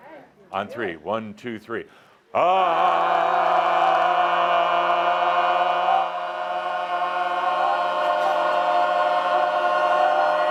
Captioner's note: audience yells with them